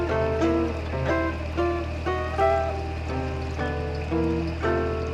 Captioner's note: water splashing